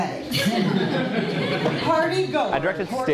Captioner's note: audience laughter